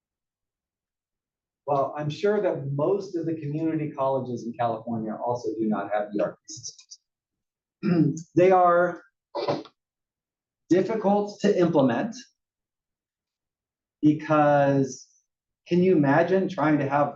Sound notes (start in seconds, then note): 7.8 cough